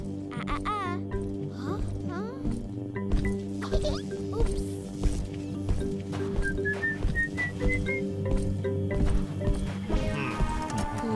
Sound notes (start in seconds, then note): 3.7 chuckling; 6.4 whistling; 9.1 mysterious music